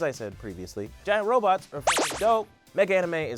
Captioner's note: beep